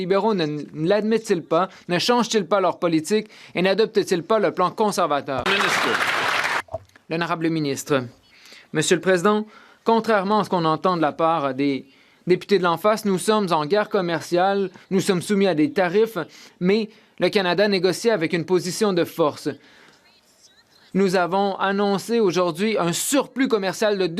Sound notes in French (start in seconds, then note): 11.1 voix de l'interprète